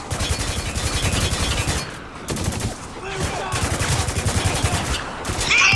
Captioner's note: gunfire continues